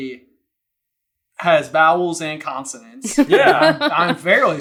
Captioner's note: laughs